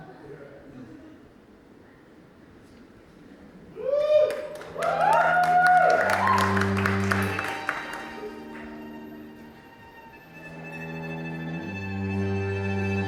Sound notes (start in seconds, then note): 3.8 audience cheers; 7.9 transition music plays